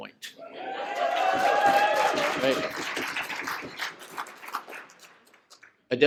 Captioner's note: cheers and applause